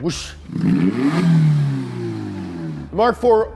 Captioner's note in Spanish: Motor Revolucionado; imita el sonido del motor